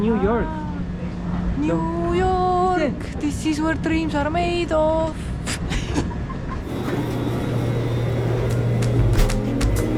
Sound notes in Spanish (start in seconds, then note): 5.5 Risas